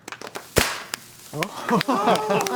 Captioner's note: team claps; party favor pops; team cheers